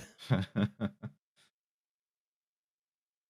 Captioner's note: chuckles softly